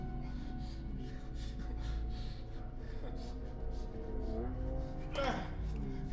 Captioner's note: heavy breathing